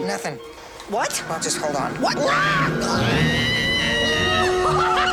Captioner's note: screams